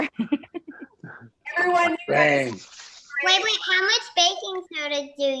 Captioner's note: laughs